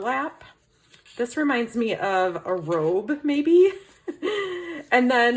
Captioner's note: laughs